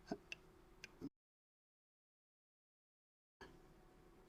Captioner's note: silence